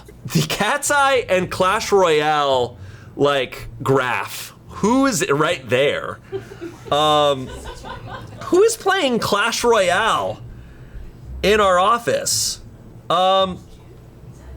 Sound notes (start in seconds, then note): 6.2 colleagues laughing